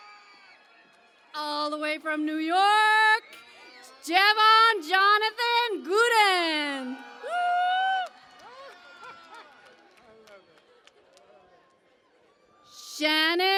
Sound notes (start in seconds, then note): 7.8 cheering and Applause